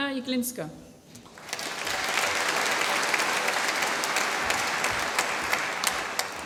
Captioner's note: applause